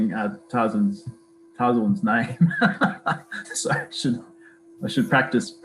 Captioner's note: laughs